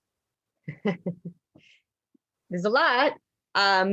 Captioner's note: laughs